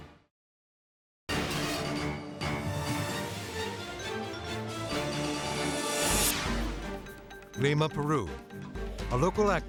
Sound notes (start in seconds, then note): 1.3 bright dramatic music; 6.2 air whooshes